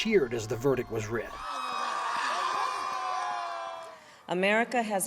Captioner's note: crowd cheering